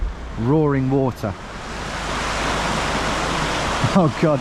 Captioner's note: water roaring